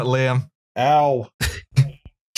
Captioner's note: laughter